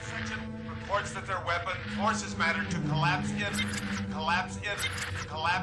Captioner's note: with static; click; with static